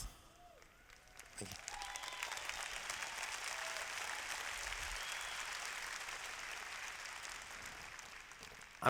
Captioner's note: applause